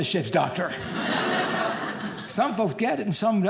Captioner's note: audience laughing